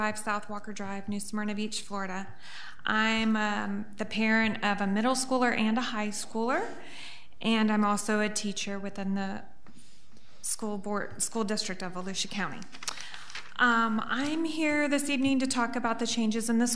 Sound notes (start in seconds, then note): none